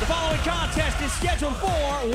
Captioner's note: bell ringing